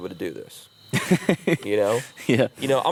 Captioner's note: laughs